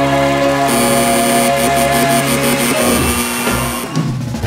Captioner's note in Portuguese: campainha; aplausos